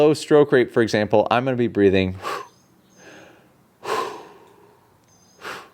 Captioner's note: breathes sharply